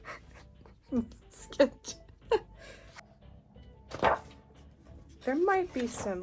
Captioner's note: laughs